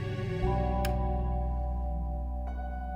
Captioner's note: click